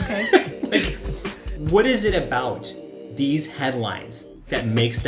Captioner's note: laughs